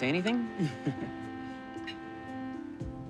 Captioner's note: chuckling